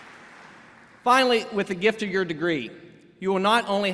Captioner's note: applause